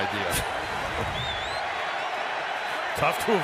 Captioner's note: laughs